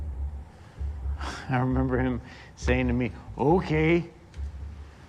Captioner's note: chuckles